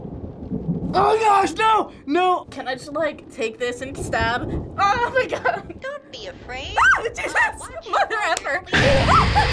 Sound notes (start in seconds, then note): 6.8 screams